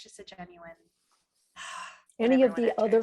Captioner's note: sighs